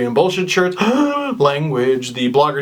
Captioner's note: gasp